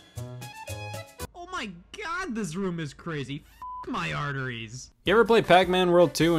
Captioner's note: beep